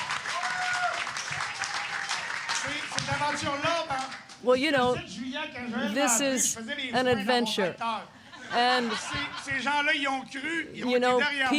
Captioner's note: applause